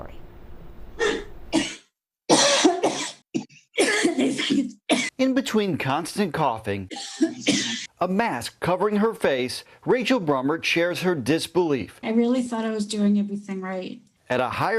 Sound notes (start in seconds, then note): 6.8 coughing